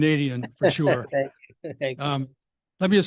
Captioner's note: laughs